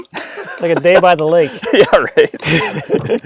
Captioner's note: laughing